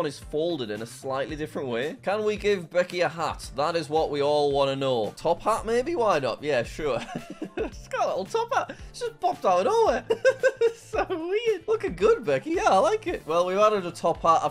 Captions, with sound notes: is folded in a slightly different way. Can we give Becky a hat? That is what we all wanna know. Top hat maybe, why not, yeah, sure. (laughing) She's got a little top hat. It's just popped out nowhere. (laughing) So weird. Looking good Becky. Yeah, I like it. Well we've added a top hat.